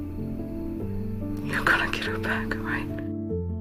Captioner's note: voiceover; whispering